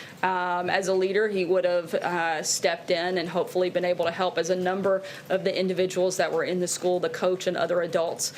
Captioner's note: none